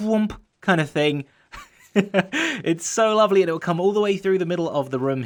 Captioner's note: chuckles